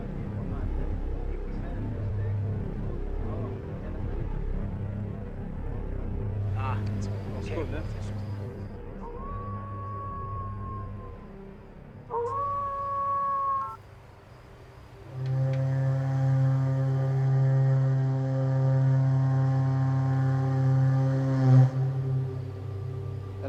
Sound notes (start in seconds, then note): 9.0 phone Rings - Wolf Howl; 15.1 suspenseful Drone Sound